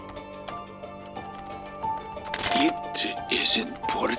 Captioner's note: keyboard continues clacking